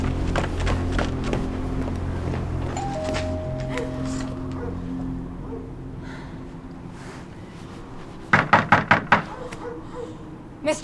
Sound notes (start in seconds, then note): 2.5 doorbell ringing; 8.2 knocks